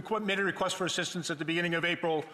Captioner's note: speaking english